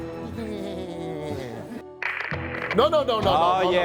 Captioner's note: mimicking laughter